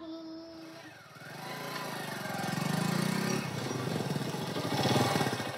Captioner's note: motorbike approaches